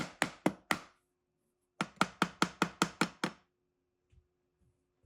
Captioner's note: hammer tapping